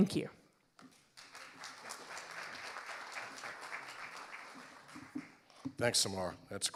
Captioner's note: audience applauding